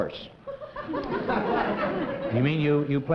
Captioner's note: laughter